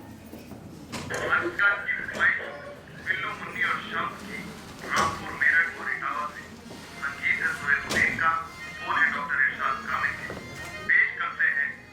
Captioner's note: radio plays in the background